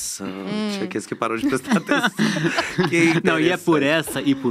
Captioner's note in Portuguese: risos